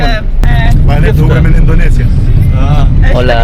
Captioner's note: Arabic